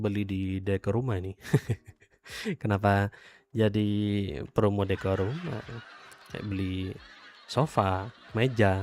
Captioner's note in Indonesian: tertawa